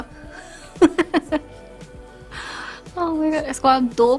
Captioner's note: laughs